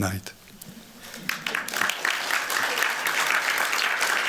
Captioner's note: applause